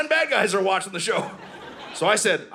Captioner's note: audience laughing